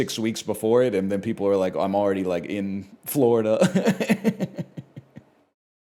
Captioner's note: laughs